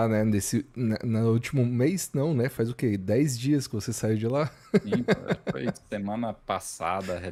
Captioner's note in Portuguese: risadas